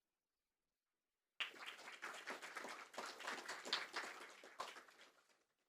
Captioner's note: attendees applaud